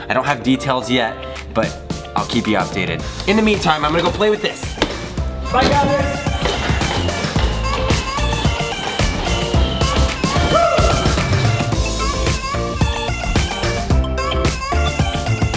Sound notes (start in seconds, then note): 6.9 darts firing; 6.9 energetic music